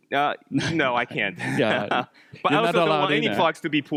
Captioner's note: laughs